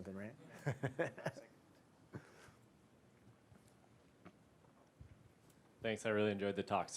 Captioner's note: laughter